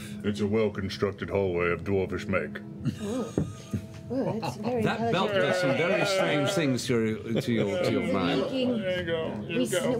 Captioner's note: groans